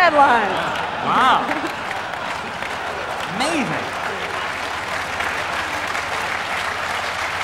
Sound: applause

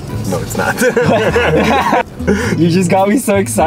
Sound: both laughing

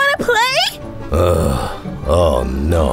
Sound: big sigh

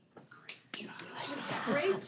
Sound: clapping

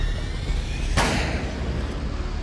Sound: gunshot

